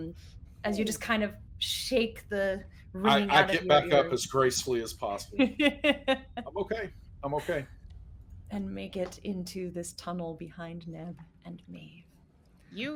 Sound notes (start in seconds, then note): 5.3 laughing